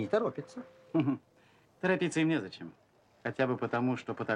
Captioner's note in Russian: смеется